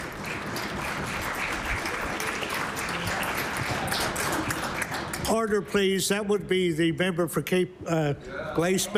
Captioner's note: applause